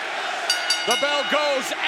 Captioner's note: crowd chants "Johnny Wrestling/Ricochet"; bell rings